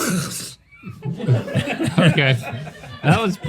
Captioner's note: laughter